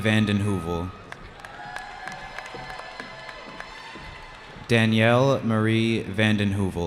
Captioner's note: cheering